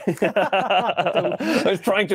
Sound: laughing

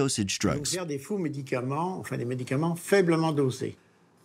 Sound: French spoken audio

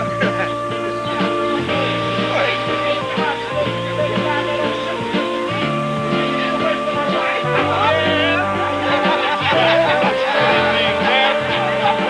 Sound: indistinct chatter, laughter

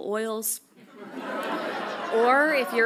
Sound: audience laughs

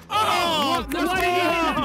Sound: players cheer

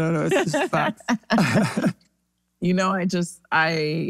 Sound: laughs

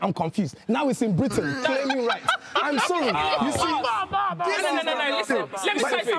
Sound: everyone laughs

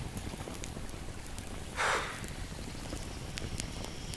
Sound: sighs

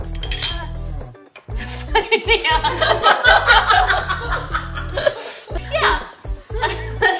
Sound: laughs

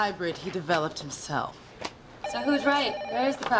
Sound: ringing of telephone

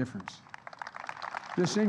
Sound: applause

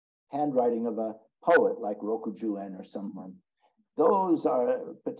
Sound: speaks in Japanese

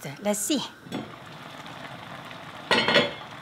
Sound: soup bubbles; lid clinks

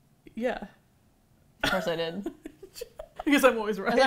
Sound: laughs

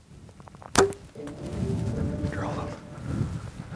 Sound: bow popping

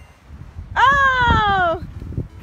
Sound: voiceover

